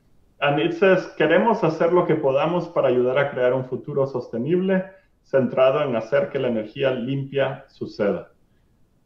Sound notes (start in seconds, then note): 1.1 speaking spanish